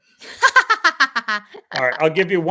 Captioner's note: laughing